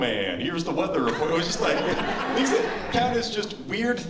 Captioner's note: laughter